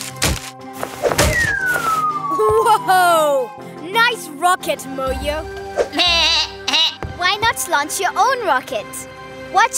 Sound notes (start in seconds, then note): 5.9 bleats